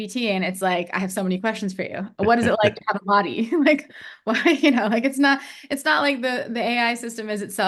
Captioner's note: polite laughs